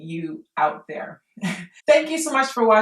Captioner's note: chuckles